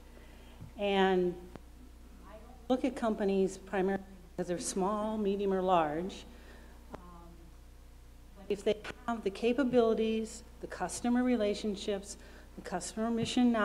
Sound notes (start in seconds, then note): none